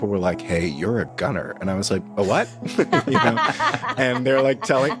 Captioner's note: all laughing